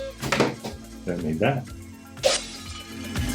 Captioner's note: glass breaking